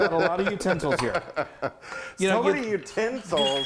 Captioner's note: laughing